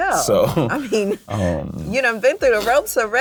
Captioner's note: both laugh